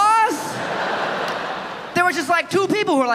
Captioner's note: audience laughing